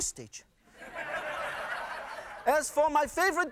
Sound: laughter

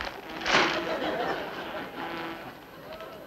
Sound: fly buzzing around and book swatting hard surfaces; audience laughs

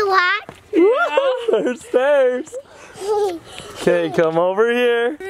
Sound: laughs

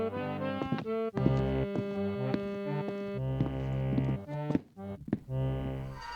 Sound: footsteps

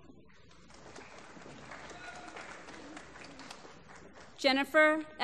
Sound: applause

